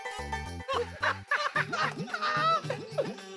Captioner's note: laughing